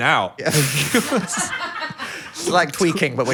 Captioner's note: group laughs